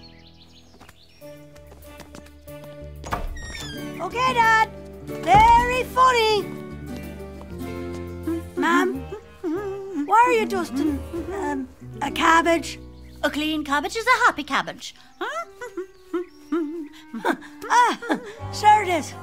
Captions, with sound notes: Okay Dad, very funny! (humming) Mam? Why are you dusting a cabbage? - A clean cabbage is a happy cabbage. (humming) - Ah, (laughs) sure it is.